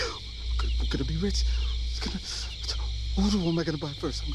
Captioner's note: laughing; mumbling